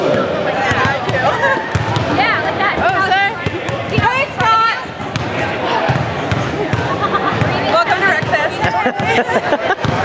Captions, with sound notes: (laughter) - Welcome to RecFest.